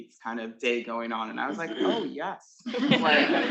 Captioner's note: attendees laughing